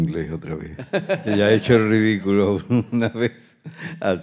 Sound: speaking in Spanish; group laughs

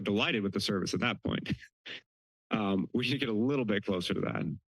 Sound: giggles

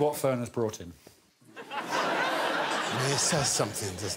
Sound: laughter

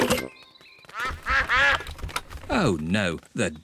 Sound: quacking

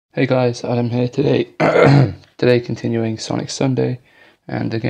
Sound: clears throat

